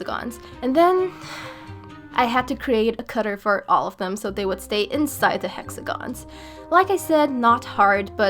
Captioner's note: big sigh